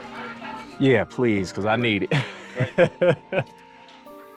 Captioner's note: laughs